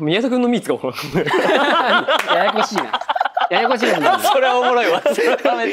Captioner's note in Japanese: 笑い